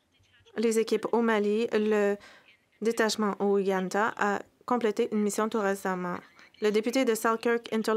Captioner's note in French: voix de l'interprète